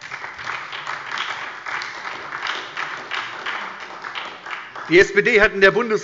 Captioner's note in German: Beifall bei der SPD